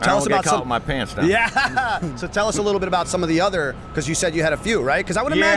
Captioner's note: chuckle